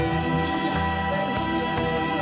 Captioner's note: Χειροκροτήματα